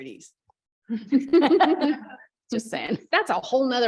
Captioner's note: laughter